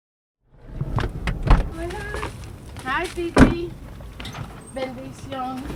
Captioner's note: car doors